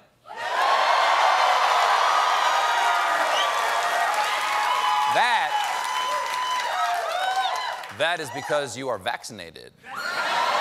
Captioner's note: audience woos